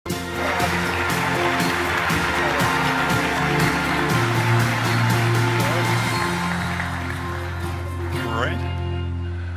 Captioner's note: applause